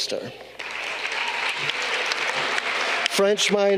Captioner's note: audience clapping